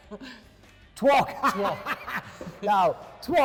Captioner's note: laughing